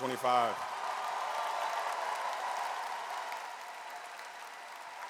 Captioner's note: audience cheers and applauds